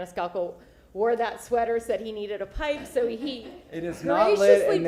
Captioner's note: laughter